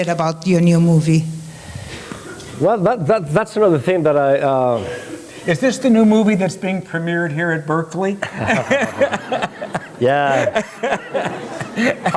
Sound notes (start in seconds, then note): 8.2 laughter